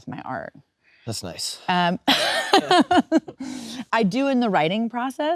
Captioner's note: Kate laughing